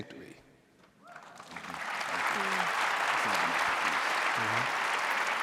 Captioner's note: audience applauding